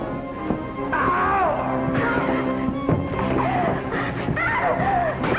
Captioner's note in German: Whitey schreit; Frau schreit; Ohrfeigen